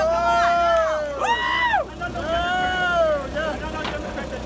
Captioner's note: cheering